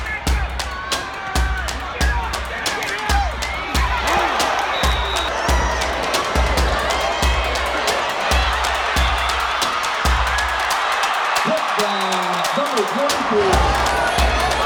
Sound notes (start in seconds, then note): 0.2 tense music; 5.0 whistle blowing; 5.8 crowd cheering